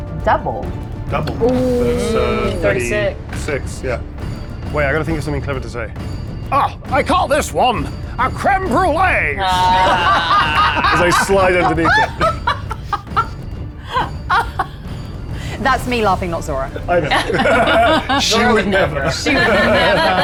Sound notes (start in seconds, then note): 9.5 everyone laughs; 12.9 laughs